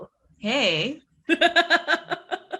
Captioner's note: laughs